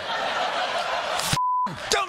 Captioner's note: laughter